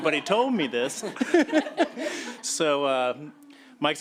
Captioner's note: laughter